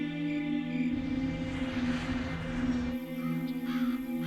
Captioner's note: crickets; airplane passing; crows